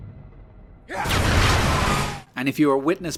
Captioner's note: ka-BOOM